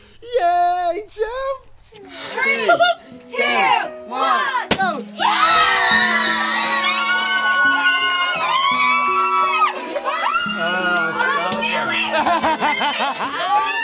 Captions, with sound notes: Yay champ. Three Two One (Screams of excitement) (Happy laughter)